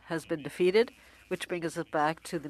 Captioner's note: speaking French